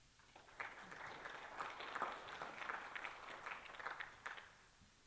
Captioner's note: applause